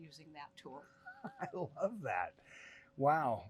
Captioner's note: chuckles